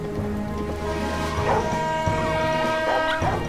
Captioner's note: barking; whistle blaring